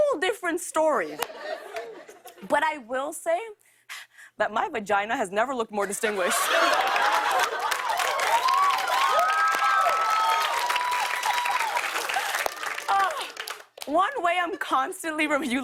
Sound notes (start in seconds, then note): 6.0 laughter and applause